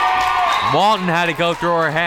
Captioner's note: crowd members cheering